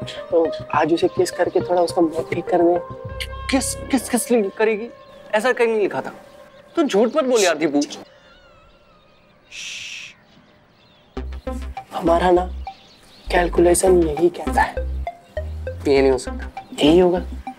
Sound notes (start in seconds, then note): 9.5 shushing